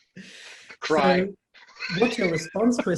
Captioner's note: laughter